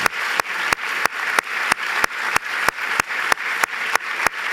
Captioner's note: applause